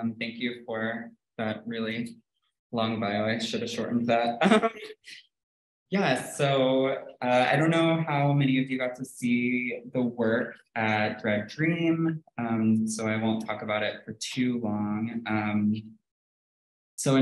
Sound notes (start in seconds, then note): 4.2 chuckles